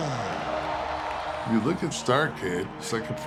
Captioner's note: applause